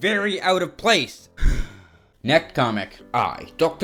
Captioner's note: loudly inhales